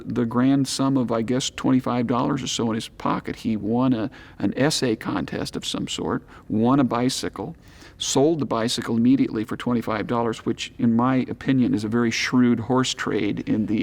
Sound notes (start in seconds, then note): none